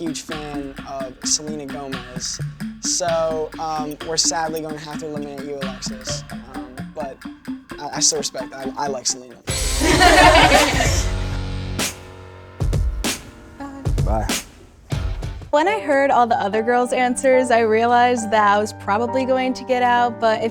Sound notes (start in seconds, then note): 9.6 girls laughing; 11.4 dramatic music